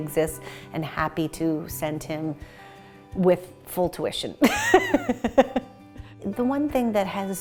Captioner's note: laughs